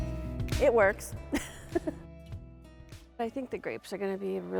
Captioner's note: laughs